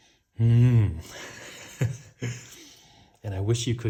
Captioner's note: baker laughs